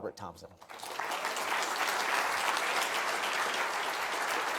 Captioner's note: audience applauds